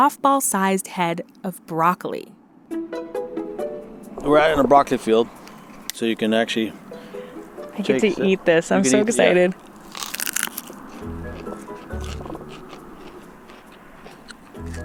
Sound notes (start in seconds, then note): 4.5 rustling sound; 9.5 crunching